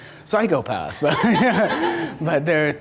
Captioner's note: audience laughter; laughs